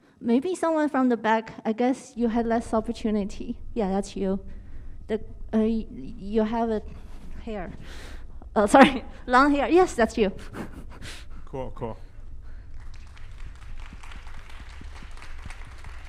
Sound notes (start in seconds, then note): 8.6 laughs; 12.7 applause